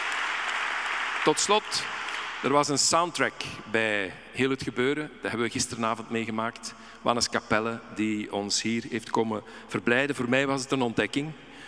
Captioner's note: audience applauding; speaking in Dutch